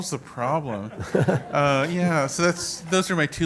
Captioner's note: laugh